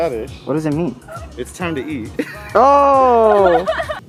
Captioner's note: laughs